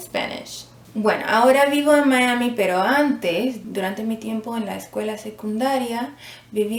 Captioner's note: spanish